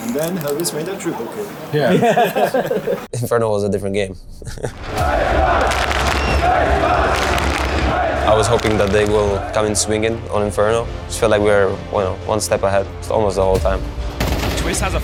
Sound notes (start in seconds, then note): 1.7 people laughing; 4.8 laughs; 7.2 crowd clapping